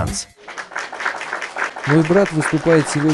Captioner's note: applause